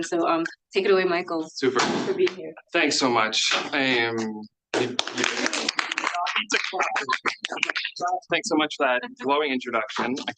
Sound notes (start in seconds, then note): 4.9 students applauding